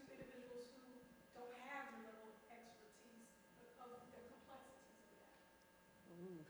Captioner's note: speaks faintly